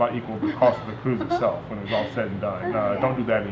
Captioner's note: laughing